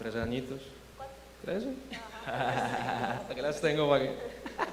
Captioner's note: laugh